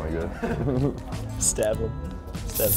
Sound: laughing

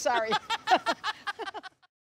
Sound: laughs

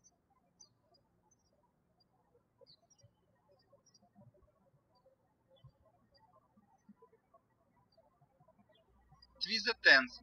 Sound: birds chirping

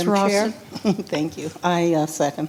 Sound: chuckles

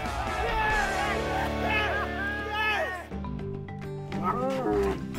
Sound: cheering

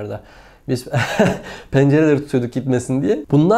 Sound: laughing

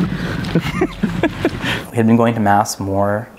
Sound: laughs

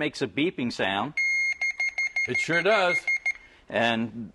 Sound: beeping

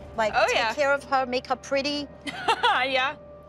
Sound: laughs

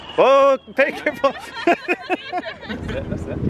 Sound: everyone laughing

